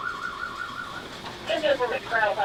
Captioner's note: door scraping